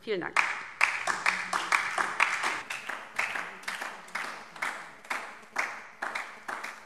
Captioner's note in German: Beifall DIE LINKE und vereinzelt SPD